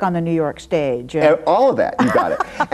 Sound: laughs

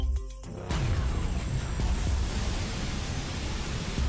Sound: beeping; pulsing

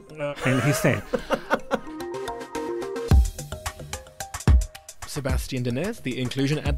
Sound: voiceover

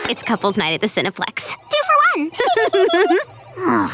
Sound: laughing; groaning

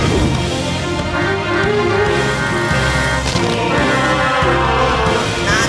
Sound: car horn honking

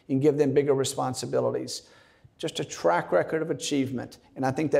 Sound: none

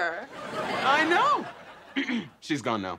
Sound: clears throat

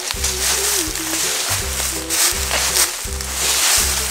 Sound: Assistant hums

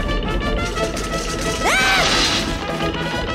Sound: yelp

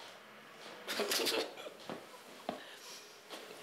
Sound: laughs

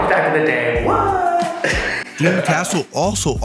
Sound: laughing

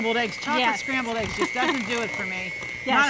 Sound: laughs

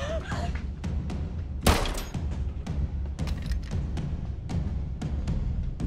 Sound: gun shot

